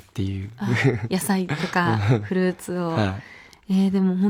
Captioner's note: laughs